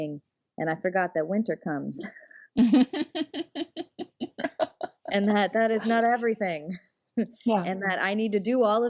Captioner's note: laughs